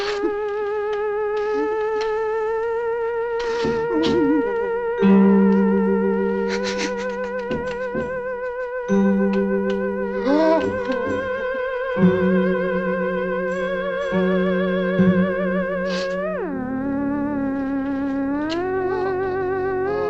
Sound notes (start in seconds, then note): 0.2 Papers sobbing and whimpering; 10.0 gasps; 19.8 eerie dramatic music continues